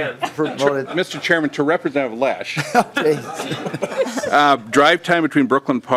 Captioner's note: laughing